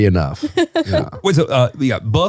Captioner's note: laughs